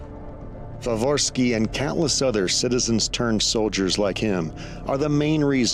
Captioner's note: in English